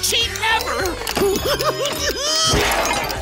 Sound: giggling

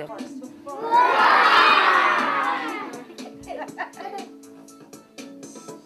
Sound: kids roar into the center of circle

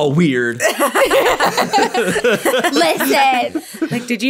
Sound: all laughing

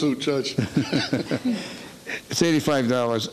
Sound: laughing

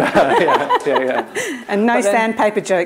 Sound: laughter

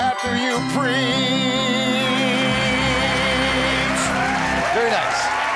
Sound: applause

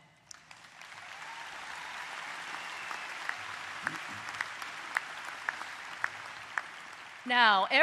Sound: applause

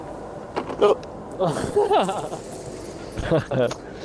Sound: laughing

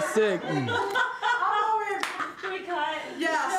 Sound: producers laughs

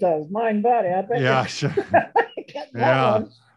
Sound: laughs

